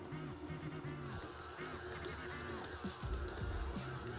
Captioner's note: gentle music continues; mixer whirring